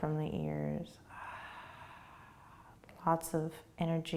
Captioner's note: exhaling